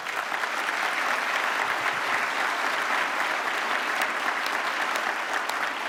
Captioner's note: applause